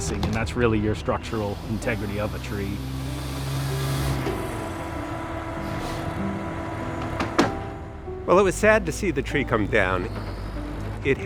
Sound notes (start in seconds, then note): 3.3 hydraulics groaning; 3.3 whirring; 7.5 cracking